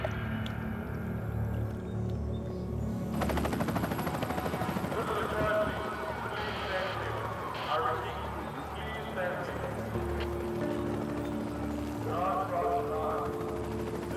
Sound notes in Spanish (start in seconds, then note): 3.9 comando de policía, altavoz; 3.9 sonido de helicóptero